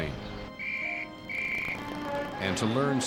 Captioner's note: whistle blowing